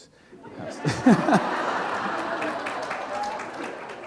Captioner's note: laughter